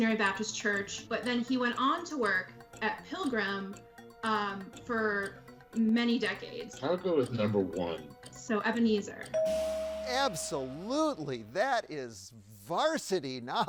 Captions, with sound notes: but then he went on to work at Pilgrim for many decades. - I'll go with number one. - So, Ebenezer. (tone chimes) - Absolutely! That is varsity knowledge.